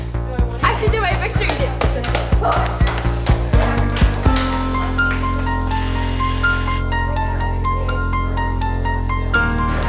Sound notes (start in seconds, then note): 2.4 feet pattering